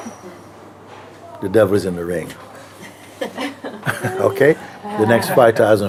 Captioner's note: Lachen